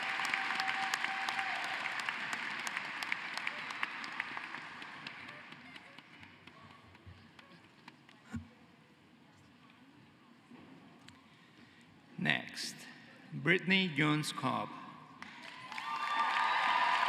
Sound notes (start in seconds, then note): 1.6 cheering and applause